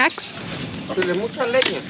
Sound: speaking spanish

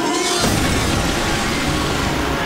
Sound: smashing

